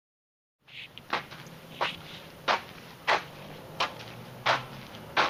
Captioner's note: scuffling footsteps